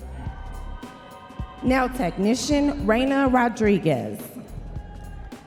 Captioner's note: audience members cheering